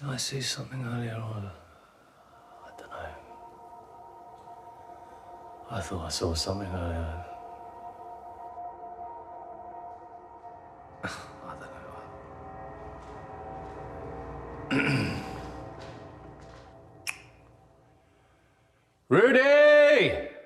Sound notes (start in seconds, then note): 14.7 Danny clears throat